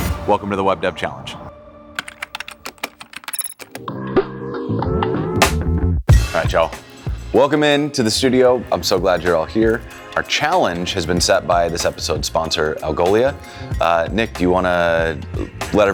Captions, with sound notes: Welcome to the Web Dev Challenge. (keyboard clicking) All right, y'all. Welcome in to the studio. I'm so glad you're all here. Our challenge has been set by this episode sponsor, Algolia. Nick, do you wanna let